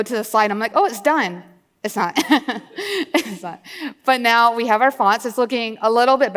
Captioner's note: laughs